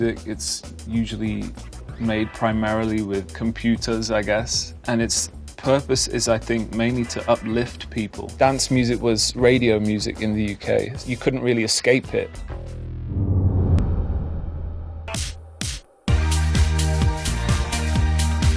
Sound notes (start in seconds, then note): 12.9 low whooshing; 16.0 uplifting dance music